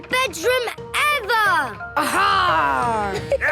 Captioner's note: laughter